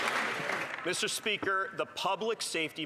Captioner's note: some Applause